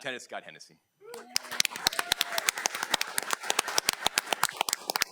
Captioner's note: audience clapping